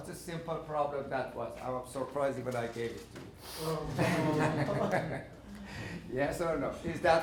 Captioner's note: laughing